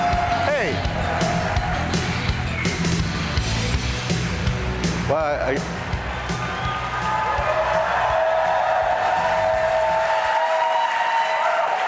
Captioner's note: cheers